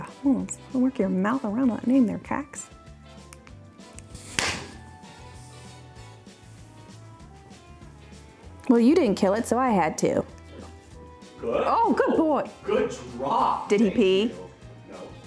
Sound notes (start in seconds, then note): 4.0 slapping